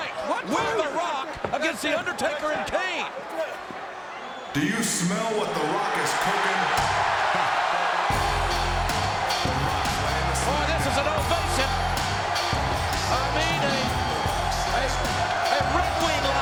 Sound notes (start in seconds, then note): 7.2 crowd cheers; 8.0 groovy music